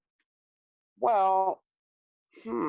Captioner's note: grunt thoughtfully